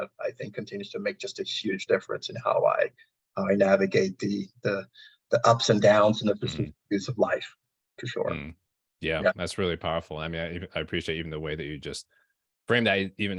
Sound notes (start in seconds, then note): 5.4 audio distortion